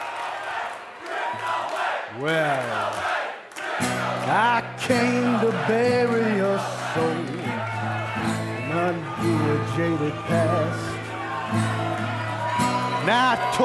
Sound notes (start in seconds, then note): 4.7 fans chanting